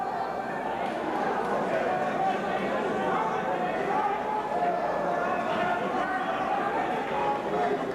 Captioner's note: crowd chattering